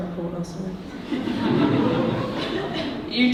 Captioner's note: audience laughing